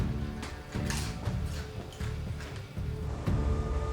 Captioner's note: crunching chips